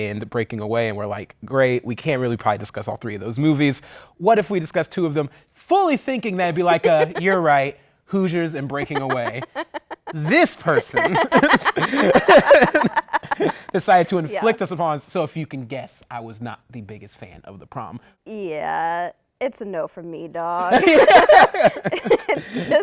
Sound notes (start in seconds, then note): 8.6 laughter